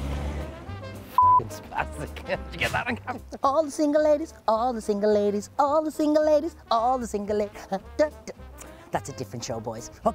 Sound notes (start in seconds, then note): 1.1 beep